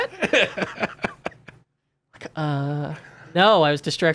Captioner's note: laughing